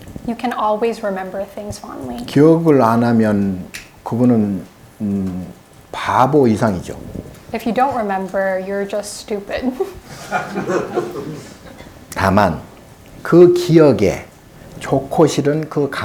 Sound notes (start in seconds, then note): 0.0 speaking Korean; 2.8 speaking Korean; 9.8 audience laughing; 12.5 speaking Korean